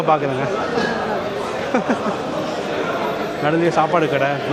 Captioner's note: laugh